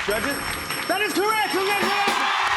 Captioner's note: cheers and applause; ding!